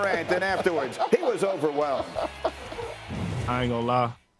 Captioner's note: laughter